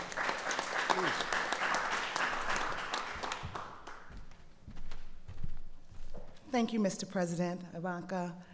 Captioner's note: applause